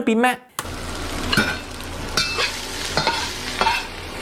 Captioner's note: rice sizzling